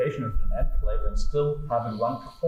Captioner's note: microphone feedback